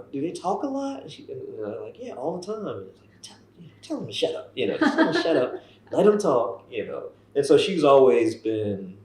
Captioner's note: laughter